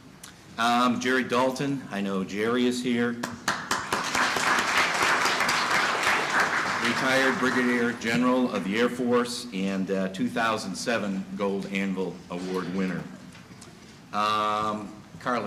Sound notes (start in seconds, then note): 3.2 applause